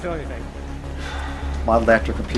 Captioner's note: elston sighs